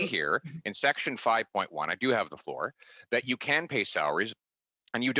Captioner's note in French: voix de l'interprète